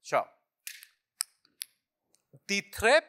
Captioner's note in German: Klicken